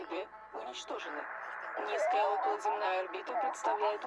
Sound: electronic Voice

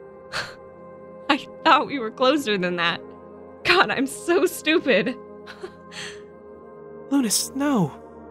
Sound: nervous laughter

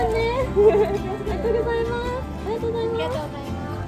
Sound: laugh

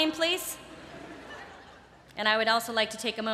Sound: laughter

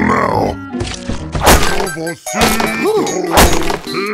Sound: wood chopping and stupid singing

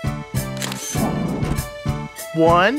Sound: SFX: Camera Shutter

